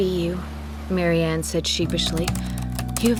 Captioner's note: typing